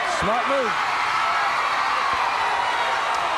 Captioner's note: crowd cheering